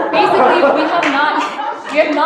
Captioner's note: laughter